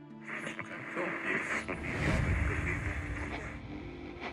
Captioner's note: radio buzzing